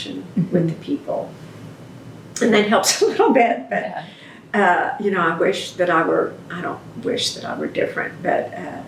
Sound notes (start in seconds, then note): 4.0 laughs